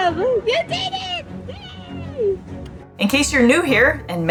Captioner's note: background music; makes happy humming noise